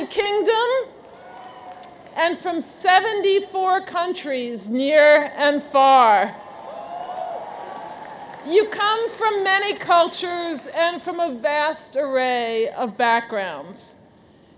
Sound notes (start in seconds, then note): 0.0 audience cheers; 6.4 audience cheers